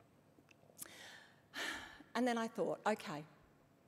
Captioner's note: sighs